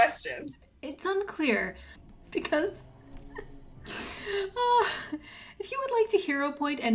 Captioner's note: laughs